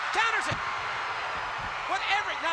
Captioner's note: crowd cheers